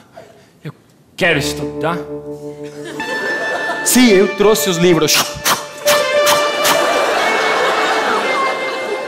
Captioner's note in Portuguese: som de arremesso